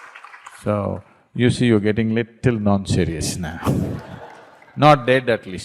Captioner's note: laughter, Clapping; laughter